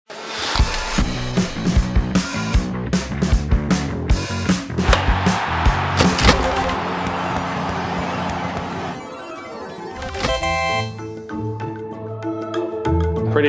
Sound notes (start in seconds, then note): 4.9 applause; 6.0 slot machine sound; 11.0 eerie music